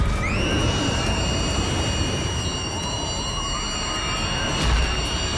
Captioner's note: Persephone screaming